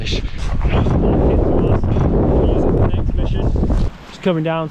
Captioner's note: wind noise